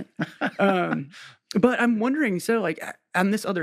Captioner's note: laughs